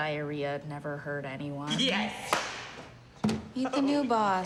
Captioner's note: claps